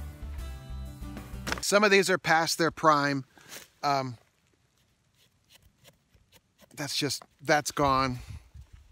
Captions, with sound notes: Some of these are past their prime. (scratches) That's just, that's gone.